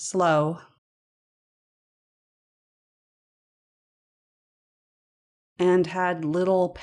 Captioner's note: silence